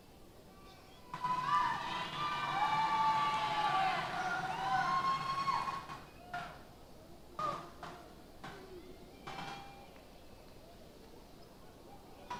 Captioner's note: cheers